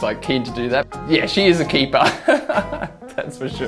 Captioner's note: laughs